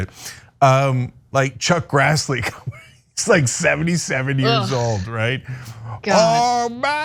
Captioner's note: laugh